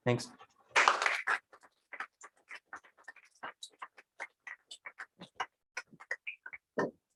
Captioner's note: applause